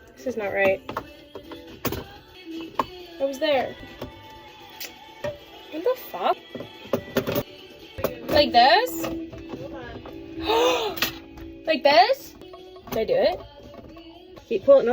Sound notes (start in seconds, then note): 10.4 big gasp